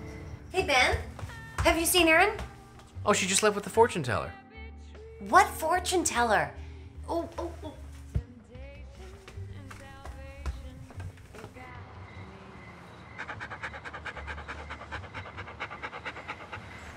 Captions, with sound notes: - Hey, Ben, have you seen Erin? - Oh, she just left with the fortune teller. - What fortune teller? Oh, oh, oh. (dog paws clatter) (Ramani panting)